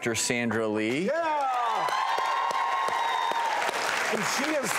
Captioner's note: audience cheers